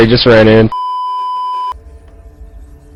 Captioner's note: beeeeeeeeeeeep